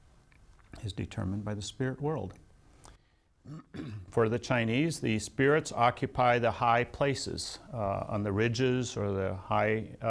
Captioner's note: clears throat